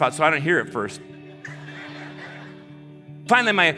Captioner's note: audience laughing